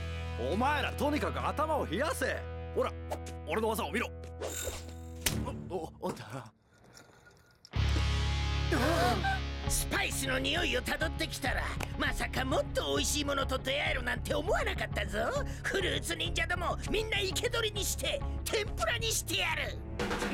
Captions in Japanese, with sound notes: お前らとにかく頭を冷やせ ほら 俺の技を見ろ ウッ おっと （息をのむ音） スパイスのニオイを たどってきたら― まさか もっとおいしいものと 出会えるなんて思わなかったぞ フルーツ忍者ども みんな生け捕りにして 天ぷらにしてやる